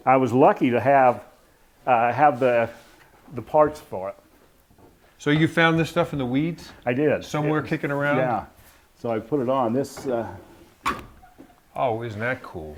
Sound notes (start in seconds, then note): 10.8 door creaking